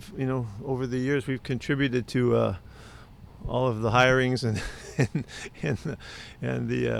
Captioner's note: laughs